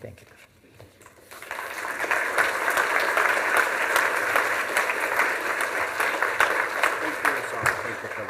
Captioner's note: applause